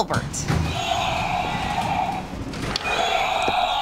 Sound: dinosaur toy roars

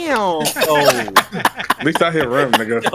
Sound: everyone laughs

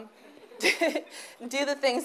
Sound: chuckles

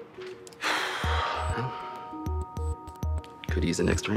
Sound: sighs heavily

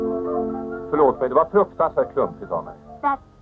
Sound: Swedish spoken audio

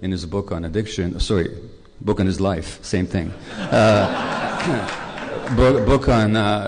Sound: laughter

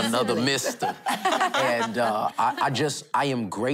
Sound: laughing

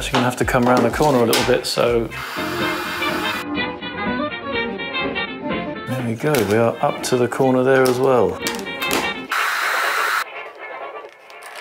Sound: hair dryer

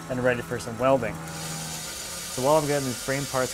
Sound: machine sounds

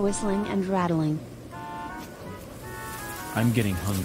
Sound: sound of wind and leaves

